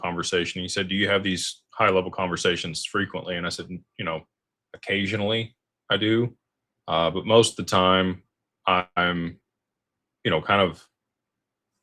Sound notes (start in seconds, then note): none